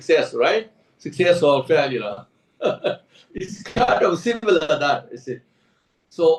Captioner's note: laughs